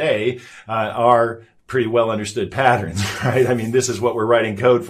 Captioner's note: chuckles